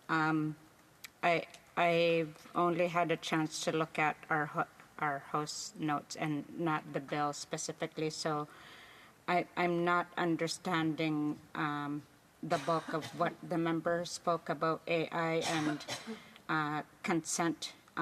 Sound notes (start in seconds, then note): 2.3 speaking indigenous languag